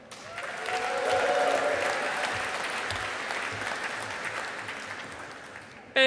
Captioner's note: audience applauding